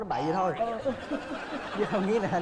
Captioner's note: laughing